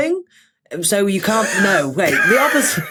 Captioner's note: wheeze